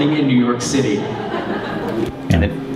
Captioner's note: audiences laughs